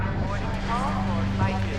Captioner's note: woman over P.A